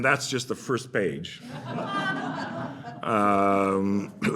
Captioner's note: laughter